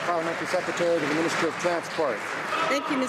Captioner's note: some Applause